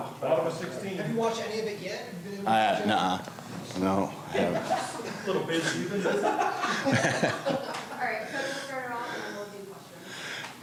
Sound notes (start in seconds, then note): 5.6 laughter